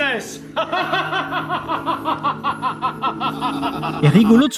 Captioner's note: evil laugh